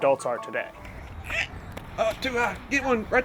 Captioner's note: shrieks; footstep clatter